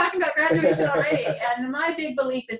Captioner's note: laughter